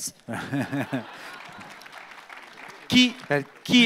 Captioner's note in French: Rires